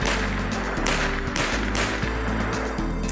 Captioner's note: bang